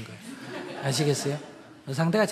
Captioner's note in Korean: 청중 웃음